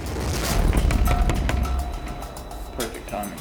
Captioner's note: Jason pounds on door